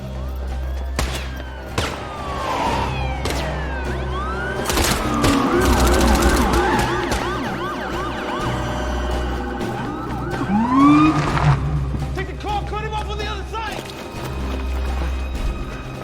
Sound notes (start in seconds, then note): 0.9 gunshots; 2.7 siren wailing